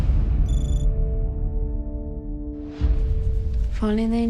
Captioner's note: dramatic music; graphics trilling